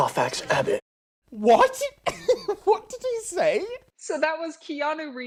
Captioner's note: laughs